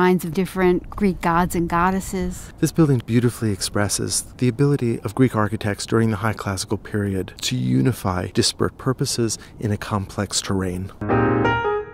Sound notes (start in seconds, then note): 2.4 voiceover; 11.0 piano music